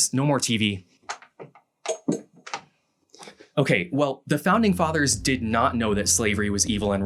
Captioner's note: plug pulling from socket